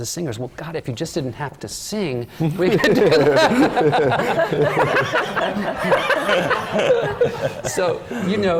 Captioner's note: laughs